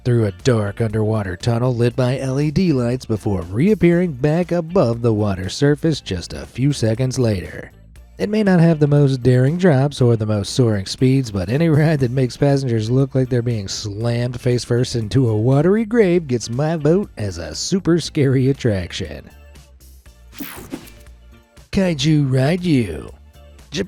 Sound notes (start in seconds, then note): 20.3 screen whooshing